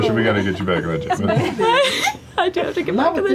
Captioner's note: laughter